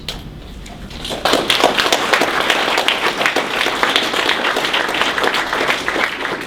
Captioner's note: applause